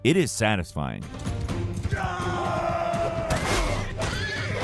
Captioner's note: intense dramatic music; warriors yelling; horse whinnying; blows thudding